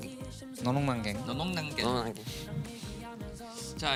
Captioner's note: saying it cute